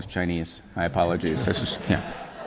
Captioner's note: laughter